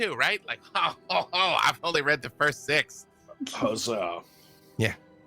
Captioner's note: laughs